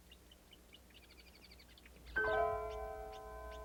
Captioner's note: birds chirping; soft piano music